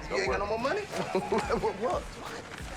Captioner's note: laughs